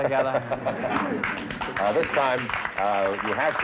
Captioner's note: applause